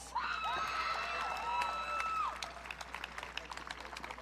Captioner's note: audience cheering